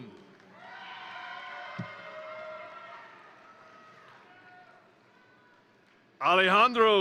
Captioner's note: crowd cheering; crowd applauding